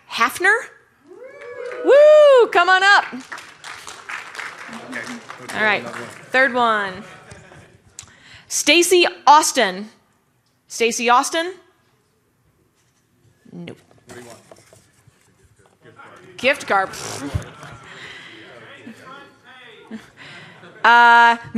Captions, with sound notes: Must be present. No. Jack Haffner? Come on up. [Applause] All right. Third one, Stacey Austin. Stacey Austin? Nope.